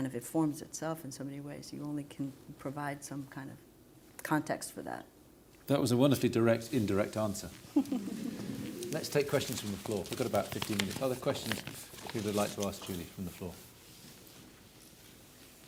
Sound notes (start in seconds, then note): 7.7 laughter